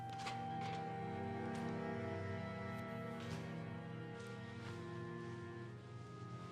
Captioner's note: patrons chattering